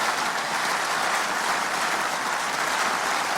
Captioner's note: applause